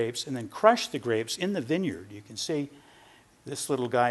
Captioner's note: none